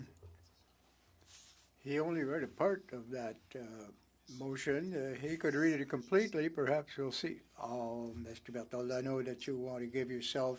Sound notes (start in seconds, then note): 0.5 speaking French